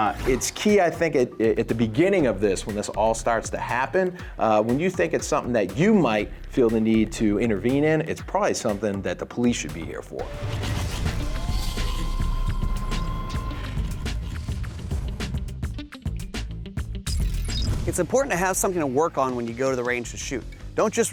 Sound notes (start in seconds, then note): 10.9 mechanical whirring